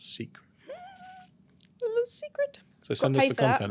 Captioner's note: hums